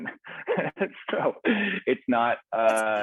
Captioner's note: chuckles